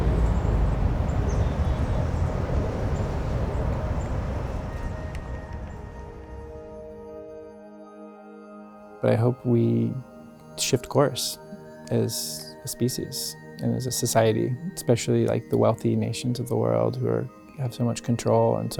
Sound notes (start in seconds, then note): 0.0 traffic passing; 5.2 calming music